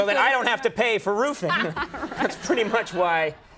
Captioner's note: laughs